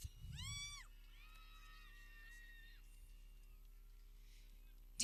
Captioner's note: people cheering